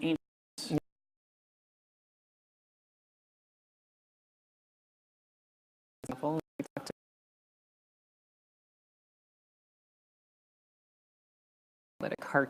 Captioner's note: sound cuts out